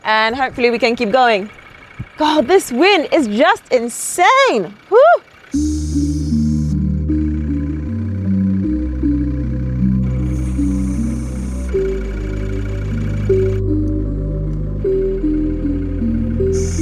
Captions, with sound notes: and hopefully we can keep going. God, this wind is just insane, woo. (gentle music) (vehicle engine whirring)